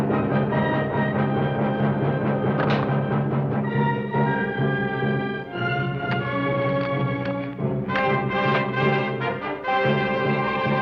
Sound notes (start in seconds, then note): 2.4 gun clacks